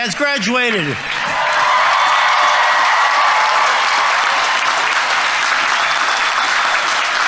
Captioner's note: audience applauding; audience members cheering